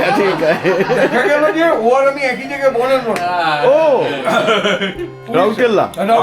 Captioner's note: loud laughter